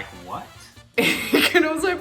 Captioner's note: laughing